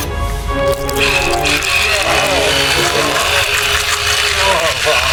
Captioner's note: sawing